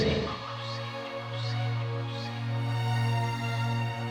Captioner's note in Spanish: Efecto de eco